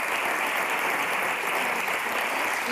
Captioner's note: applause